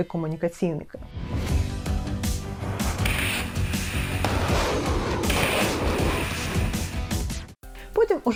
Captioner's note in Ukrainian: Музика та робота військової техніки